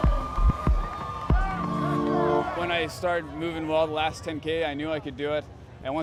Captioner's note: cheers and Applause